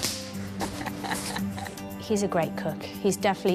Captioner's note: laughs